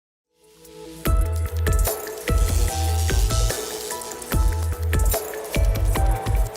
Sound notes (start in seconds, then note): 0.6 energetic music; 1.7 electrical buzzing